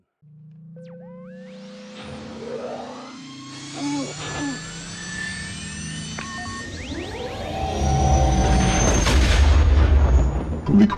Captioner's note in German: Milliennium Falcon Triebwerksgeräusche